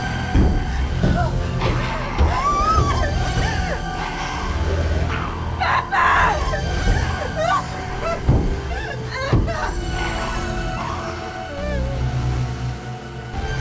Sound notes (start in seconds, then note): 1.9 crying; 3.0 dramatic music; 7.4 dramatic music